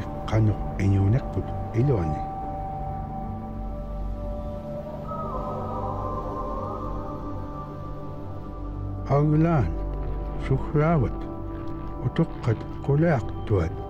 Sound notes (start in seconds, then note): 4.1 howls; 9.7 speaking in foreign language